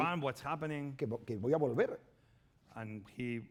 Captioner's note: speaking spanish